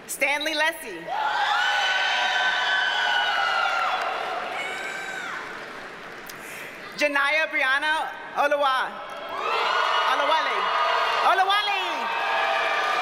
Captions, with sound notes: Stanley Lesy. (audience cheers and applauds) Janyiah Brianna Olawale. (audience cheers and applauds) Oluweli. Oluwali!